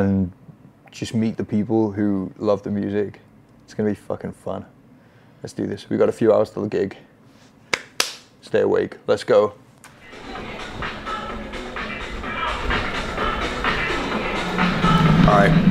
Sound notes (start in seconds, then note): 7.7 claps twice